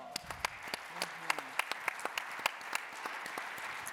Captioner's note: applause